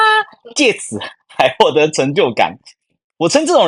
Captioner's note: laughing